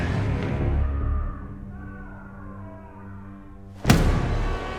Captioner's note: distant screaming; dramatic music